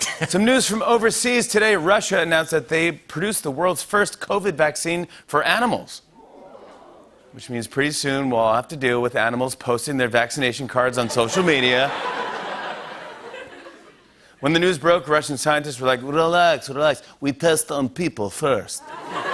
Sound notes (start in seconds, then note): 6.2 audience awws; 11.1 laughter; 15.9 Russian accent; 18.8 laughter and applause